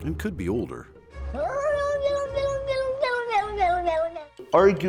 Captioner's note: cat yodeling